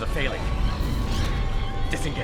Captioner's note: phasing